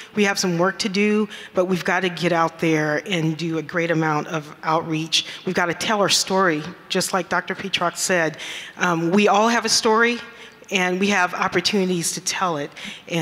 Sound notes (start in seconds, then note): none